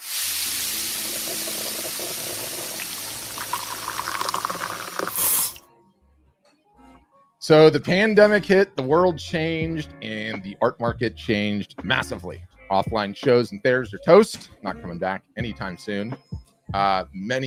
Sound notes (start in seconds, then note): 0.5 coffee percolating; 2.9 chill music; 2.9 liquid pouring